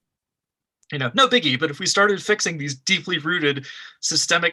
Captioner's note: sarcasm